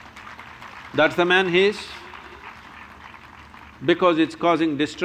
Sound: applause

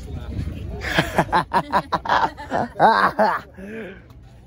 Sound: laughing

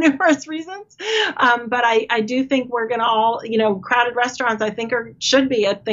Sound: laughing

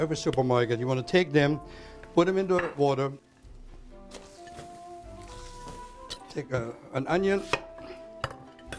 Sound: chopping sounds

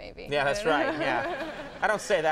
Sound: Molly and Conan laugh; Molly and audience laugh

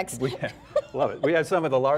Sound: laughter

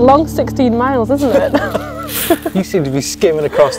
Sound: laughing

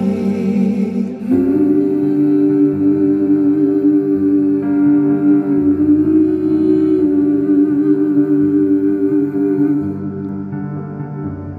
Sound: humming

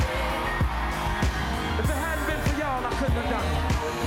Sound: applause

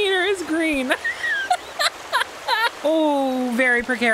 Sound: laughter

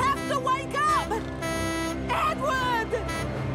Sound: honks horn

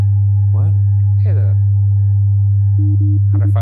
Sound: soft humming

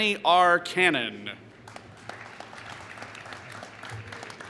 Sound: applause

